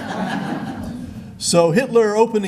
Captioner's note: laughter